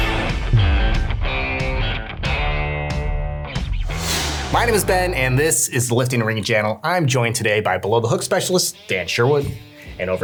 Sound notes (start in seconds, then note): 3.8 dramatic whooshing